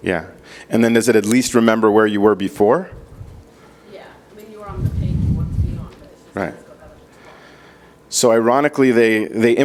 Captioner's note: speaking off microphone